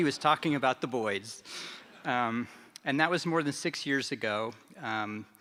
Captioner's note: laughter